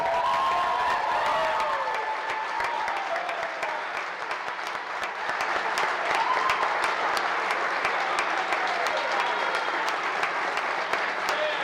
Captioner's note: cheers and applause